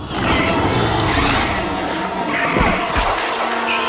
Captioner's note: raptor growls; robot whirs; raptor screeching; robot whirring; fabric tears; raptor screeches